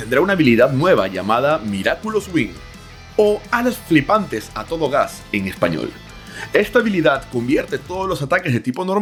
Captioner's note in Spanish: en español